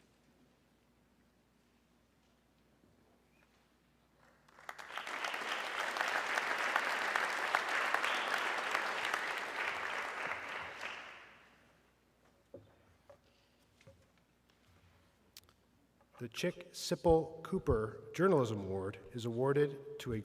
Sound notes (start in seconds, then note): 4.2 audience clapping